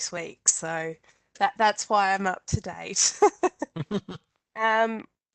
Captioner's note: laughter